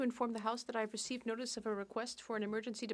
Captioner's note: speaking French